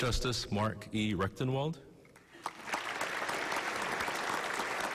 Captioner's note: applause